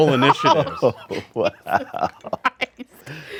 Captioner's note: group laughing